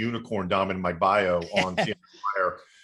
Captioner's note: laughter